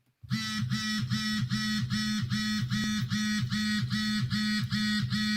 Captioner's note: phone vibrating